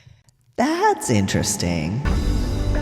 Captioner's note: echoes